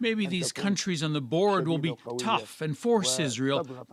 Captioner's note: speaking alternate language